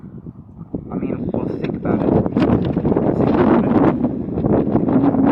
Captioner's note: windy noise